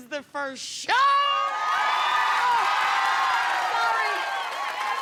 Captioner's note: cheers